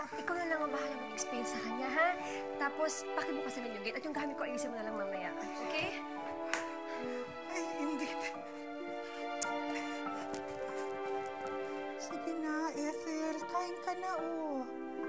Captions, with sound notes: Just explain it to her, okay? Then please open the gate and fix my things later. Okay? Oh, the gate. [nanny clicks tongue] Come on, Ethel. Eat already.